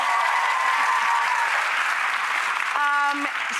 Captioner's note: applause from audience